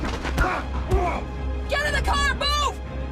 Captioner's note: punch thumps; car horn blaring; Radovan groans; punch thumps